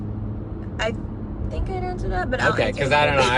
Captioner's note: laughs